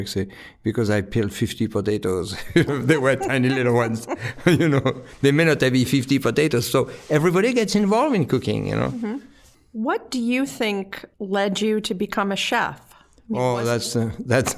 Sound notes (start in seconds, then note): 2.3 both laughing; 2.3 laughing; 14.2 laughing